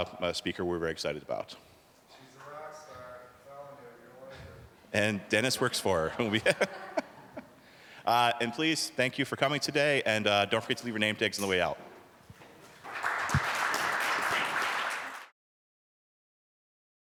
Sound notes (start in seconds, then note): 5.6 all laughing; 12.7 applause